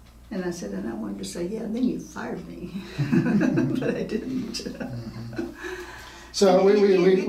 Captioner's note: laughing